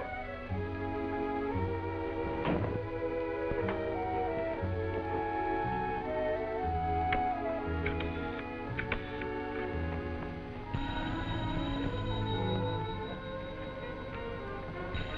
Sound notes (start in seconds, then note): 10.8 phone ringing